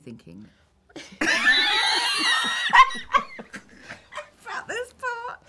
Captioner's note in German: lachen